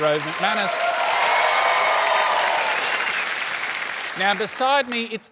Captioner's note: cheering, applause